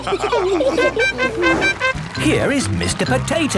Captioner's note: all laughing; horn tooting